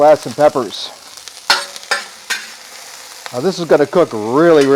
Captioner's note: spatula scrapes against discada